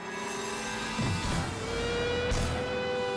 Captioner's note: base jumper thumps; dramatic music